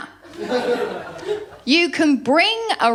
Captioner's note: laughter